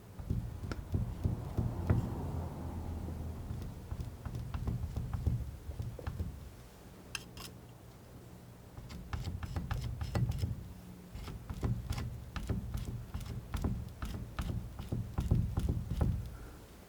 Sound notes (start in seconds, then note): 0.0 scratching; 7.5 scratching; 12.8 tapping